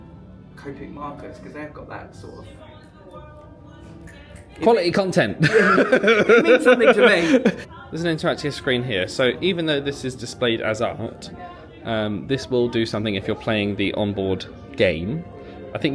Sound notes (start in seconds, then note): 4.5 snaps fingers